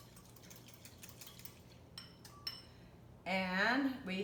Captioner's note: whisking